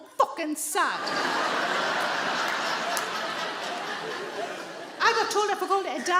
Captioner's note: audience laughing